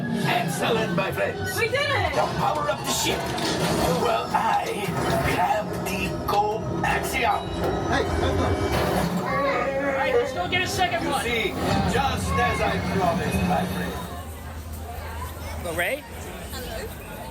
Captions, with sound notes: Excellent, my friends. FEMALE PILOT We did it! HONDO Now, power up the ship. while I grab the coaxium. [Chewbacca growling] All right! Let’s go get a second one! HONDO ...just as I promised, my friends. Hello, Rey. Hello.